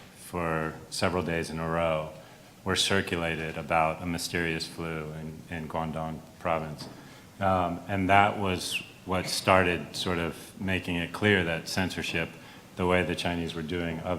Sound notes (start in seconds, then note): none